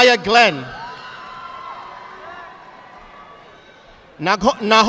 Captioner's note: audience applauding